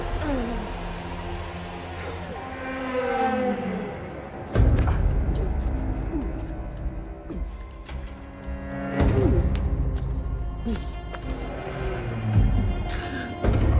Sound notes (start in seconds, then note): 0.1 Abberton moaning in pain; 4.9 ominous music; 6.0 Abberton grunting